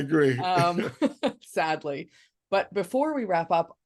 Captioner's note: both laughing